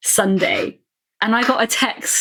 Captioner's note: laughing